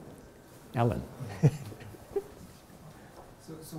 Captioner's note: chuckles